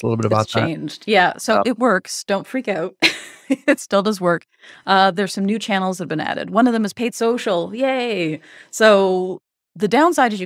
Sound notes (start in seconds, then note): 3.1 chuckles